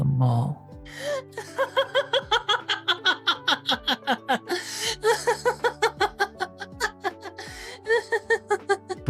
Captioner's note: laughing